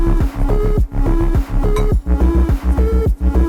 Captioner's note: scratching